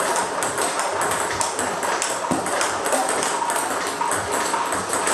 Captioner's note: ball ping pong hitting continues